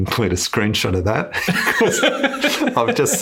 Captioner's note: laughs